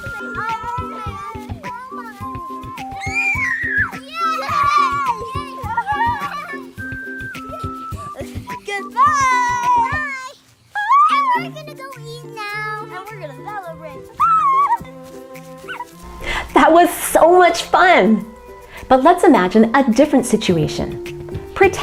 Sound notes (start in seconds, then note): 2.9 cheering; 3.6 upbeat music; 14.7 cheering; 14.7 upbeat music